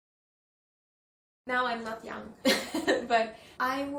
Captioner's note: laughs